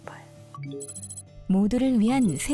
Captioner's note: notification sound